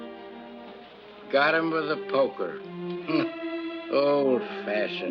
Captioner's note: chuckles